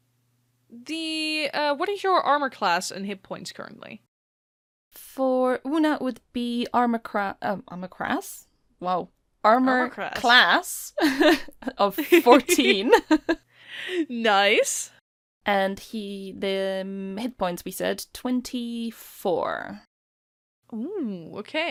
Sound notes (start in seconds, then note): 11.0 laughter; 12.1 laughs